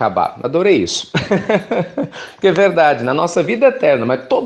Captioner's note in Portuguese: Risos